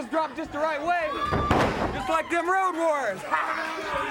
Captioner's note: body thudding; laughs